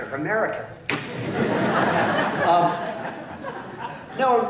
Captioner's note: laughter